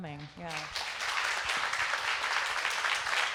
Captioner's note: applause